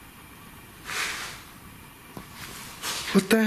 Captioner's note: loud swishing